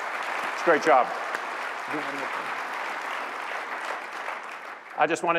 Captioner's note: applause